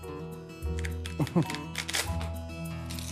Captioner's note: crunches